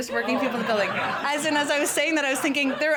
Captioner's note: laughter